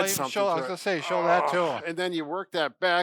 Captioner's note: groans